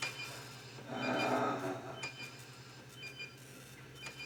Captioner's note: Donald groaning